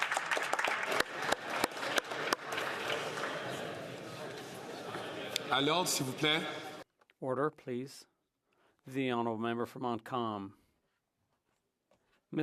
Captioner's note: some Applause